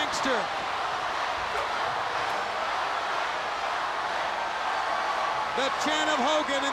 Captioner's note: crowd cheering